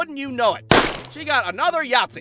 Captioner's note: bang